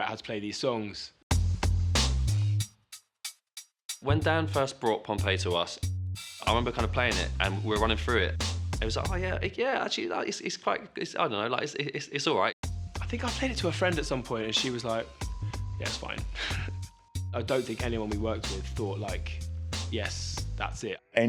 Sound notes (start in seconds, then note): 16.4 laughs